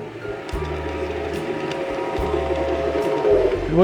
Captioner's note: model train engine whirrs